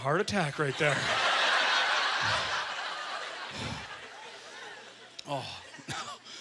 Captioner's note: audience laughter